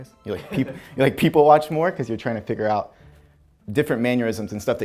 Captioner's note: off camera laughter